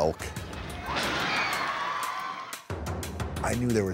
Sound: cheers and applause

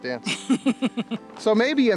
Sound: woman laughs

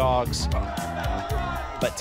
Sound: cheers and applause

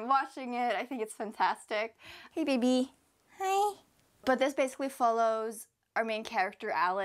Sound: baby voice

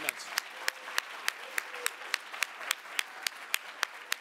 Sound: audience applauding

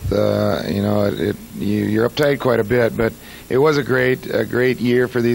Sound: none

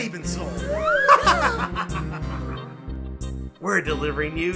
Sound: gasping; laughing

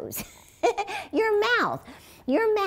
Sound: laughs

